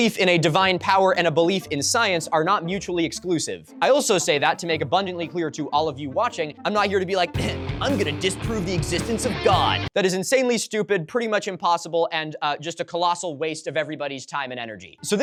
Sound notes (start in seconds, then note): 7.5 mocking voice